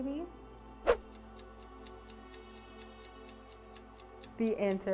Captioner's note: clock ticking